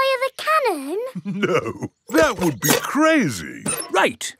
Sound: chuckling

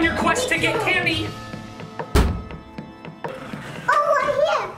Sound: footsteps pattering; door thuds

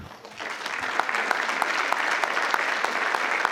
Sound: crowd clapping

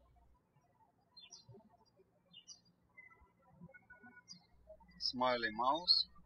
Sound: birds chirping

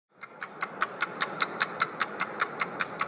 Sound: clock ticking

